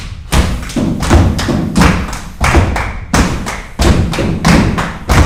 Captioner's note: actors clapping